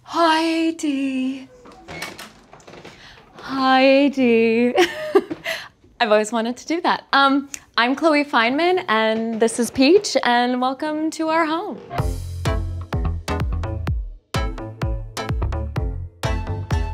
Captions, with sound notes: Hi, AD. [door creaks] Hi, AD. [chuckles] I've always wanted to do that. I'm Chloe Fineman and this is Peach. And welcome to our home. [upbeat music]